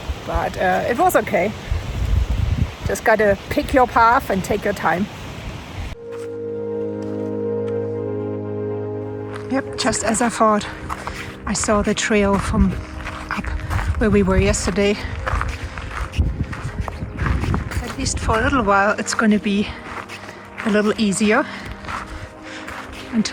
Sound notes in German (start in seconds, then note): 5.2 Fröhliche Musik; 15.5 Schritte auf Schotter